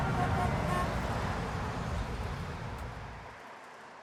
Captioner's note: horns honk